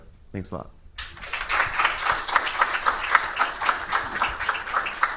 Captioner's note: audience applauding